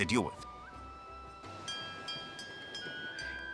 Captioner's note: ship's arrival bell rings